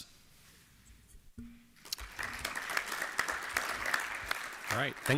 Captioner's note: applause